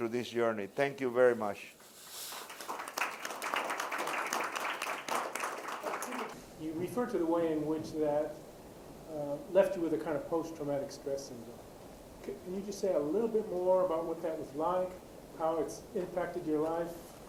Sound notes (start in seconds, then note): 2.2 applause